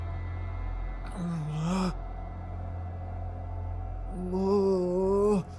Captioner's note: Kenny groans